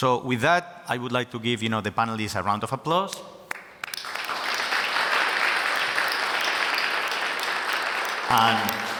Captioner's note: audience Applauding